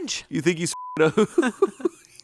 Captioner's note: beep